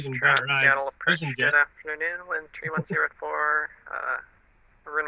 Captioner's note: radio chatter